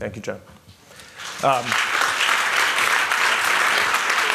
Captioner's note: applause